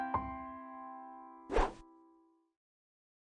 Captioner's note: swooshes